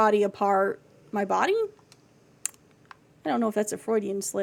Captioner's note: smacks Lips